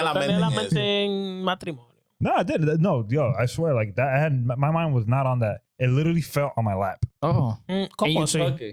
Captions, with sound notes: (Speaking In Foreign Language) No, I swear, like that, my mind was not on that, it literally felt on my lap. Oh, are you smoking?